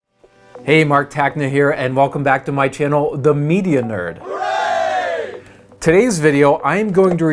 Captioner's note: group: Hooray